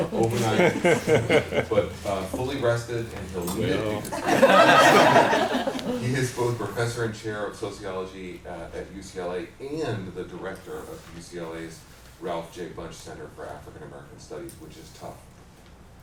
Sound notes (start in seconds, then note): 3.8 laughter